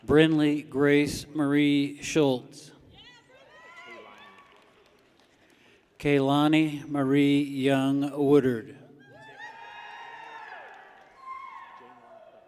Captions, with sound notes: Brinley Grace Marie Shultz. (people cheer) Kailani Marie Young Woodard. (people cheer)